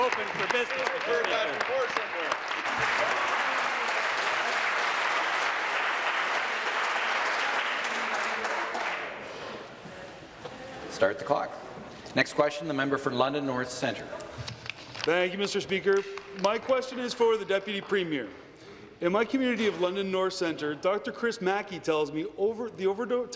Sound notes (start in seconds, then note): 4.3 applause